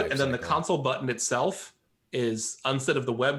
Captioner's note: murmurs